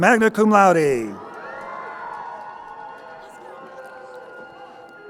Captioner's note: crowd cheering